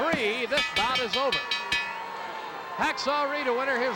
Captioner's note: bell rings